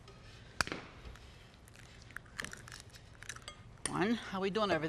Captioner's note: egg cracking